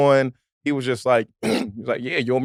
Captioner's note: clears throat